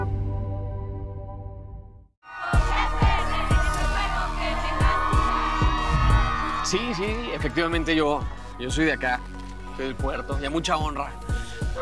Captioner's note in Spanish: Todos gritan